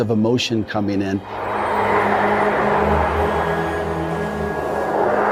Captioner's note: thunder sheet whooshing